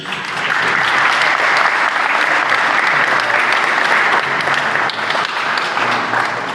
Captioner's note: applause